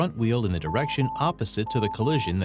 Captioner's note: system alert beeping